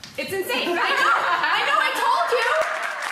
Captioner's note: laughter; audience clapping